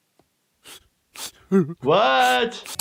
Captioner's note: Stan sobs